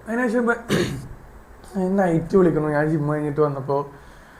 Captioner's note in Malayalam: തൊണ്ട ശരിയാക്കുന്നു